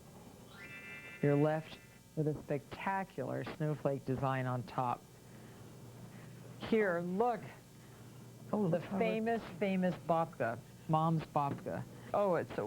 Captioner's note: magic twinkle